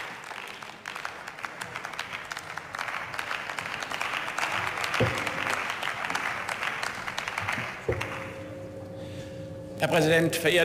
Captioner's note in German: Beifall